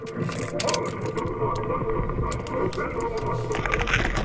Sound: promising sound of key in the ignition

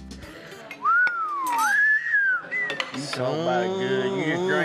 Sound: whistles

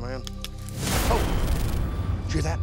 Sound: twigs snapping

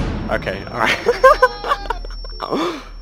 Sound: laughs; the crowd goes wild

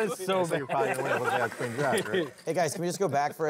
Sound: laughing

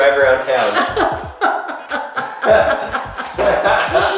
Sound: laughing

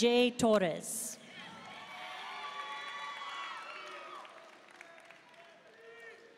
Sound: audience cheering and applauding

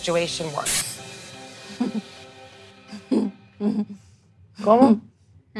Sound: Snooki laughs

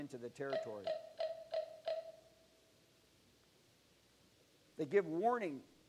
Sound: bird Sound

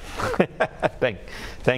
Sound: man in blue suit laughing

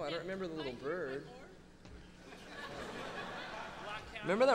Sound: audience laughing

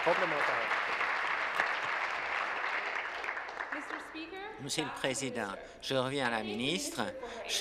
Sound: applause

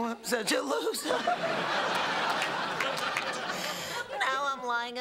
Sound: laughter

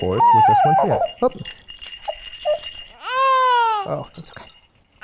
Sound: toy rattles; cries

